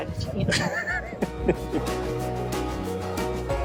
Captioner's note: laughing